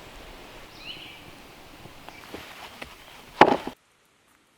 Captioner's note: bird chirping